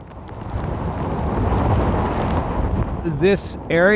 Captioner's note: wind blowing